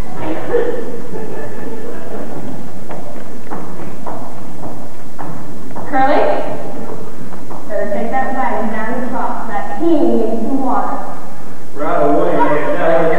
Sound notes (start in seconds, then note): 0.2 laughter